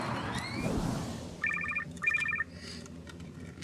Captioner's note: phone ringing